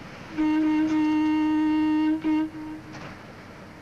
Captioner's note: horn honking